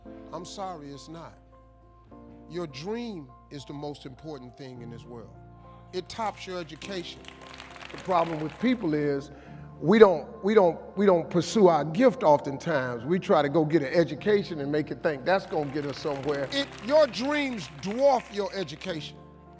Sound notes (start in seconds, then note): 6.5 audience clapping